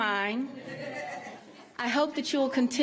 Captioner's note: laughter